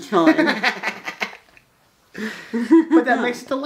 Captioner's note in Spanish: Risas